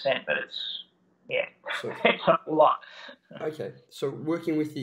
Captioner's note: laughing